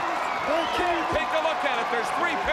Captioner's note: crowd cheering